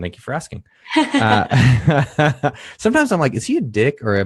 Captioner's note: laughing